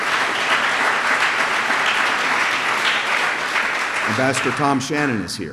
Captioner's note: applause